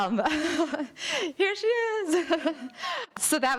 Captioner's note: laughing